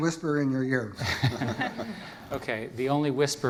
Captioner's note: laughter